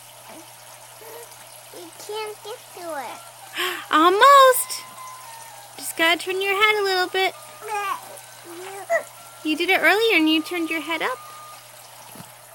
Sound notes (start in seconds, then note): 1.0 baby coos